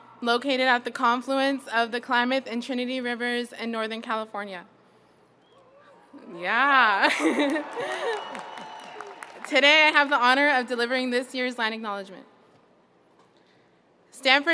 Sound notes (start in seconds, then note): 5.6 audience cheering; 7.0 chuckles